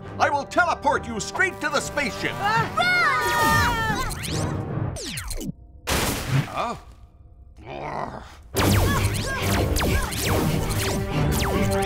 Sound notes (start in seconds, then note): 3.4 all yelling; 4.2 device whirs; 6.0 tree crashes; 7.6 growls; 8.6 lasers whir